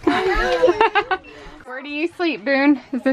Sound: laughs

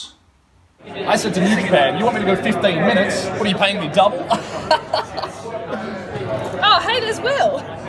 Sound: laughs

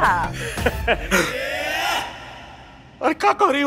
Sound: laughs

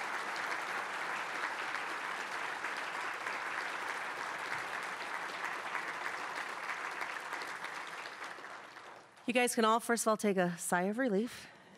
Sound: applause

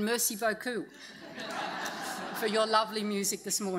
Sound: audience laughs

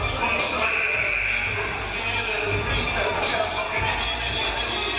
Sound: game buzzer buzzes

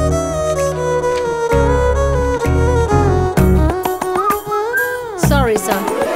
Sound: whistling

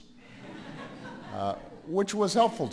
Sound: laughter

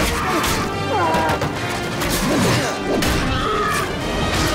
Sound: roars

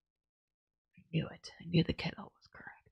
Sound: quietly

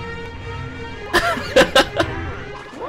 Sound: more laughter

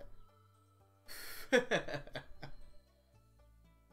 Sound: laughs

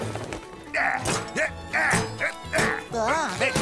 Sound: grunting; gasps

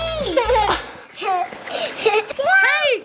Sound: laughing

